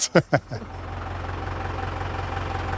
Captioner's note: engine noises